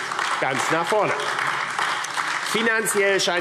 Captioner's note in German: Beifall AfD